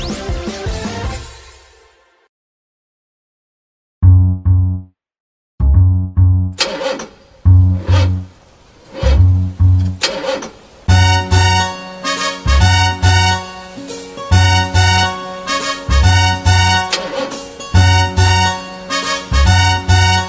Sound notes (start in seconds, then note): 0.0 upbeat rock music; 6.5 engine revving